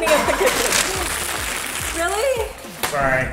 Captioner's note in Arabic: كيس ورقي يتجعد